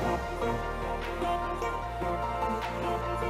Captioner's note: none